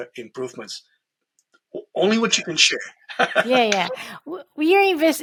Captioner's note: chuckles